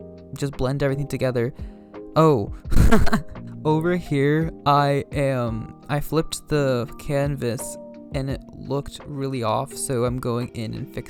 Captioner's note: laughs